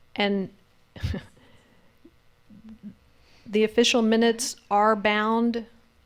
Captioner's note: giggles